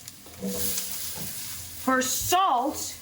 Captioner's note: pan sizzling